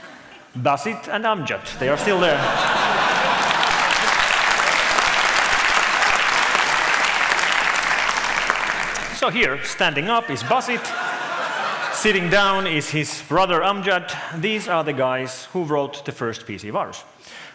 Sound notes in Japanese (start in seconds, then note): 4.3 拍手